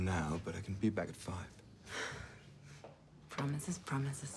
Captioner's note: sighs